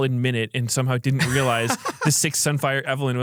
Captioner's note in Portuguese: risos